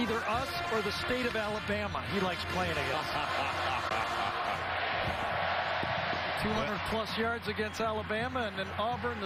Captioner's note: crowd noise